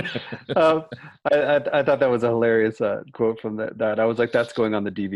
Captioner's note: laughter